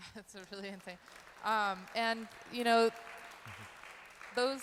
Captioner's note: applauding